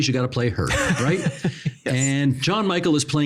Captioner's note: laughing